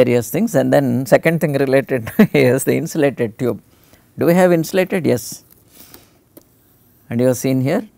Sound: laugher

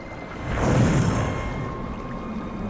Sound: metallic wooshing

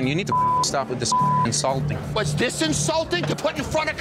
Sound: beep

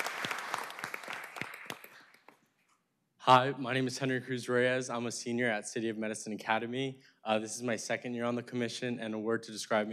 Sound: applause

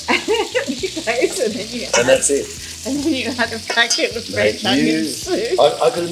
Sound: laughs

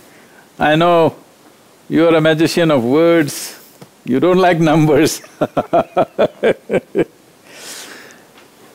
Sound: laughs

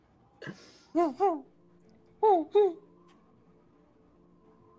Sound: hooting

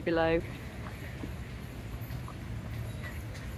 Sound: horse hooves and bells

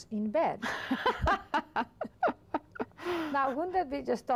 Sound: laughs

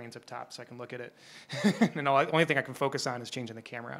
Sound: chuckles

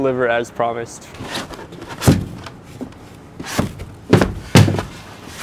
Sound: insulation scraping

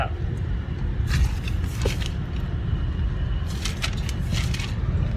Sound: map rustling

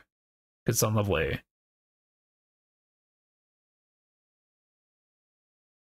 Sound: silence

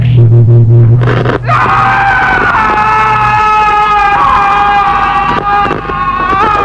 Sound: screaming

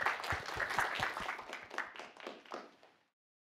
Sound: applause

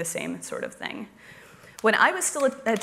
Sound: applause

